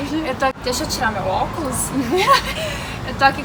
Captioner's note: laugh